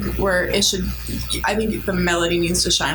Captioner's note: laughs